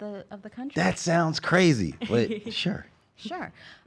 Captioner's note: laughs